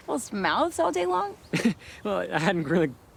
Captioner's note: Anthony laughs